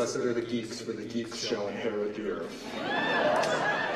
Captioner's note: cheers & applause